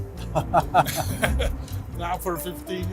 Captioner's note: chuckling